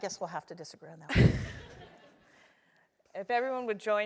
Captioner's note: laugh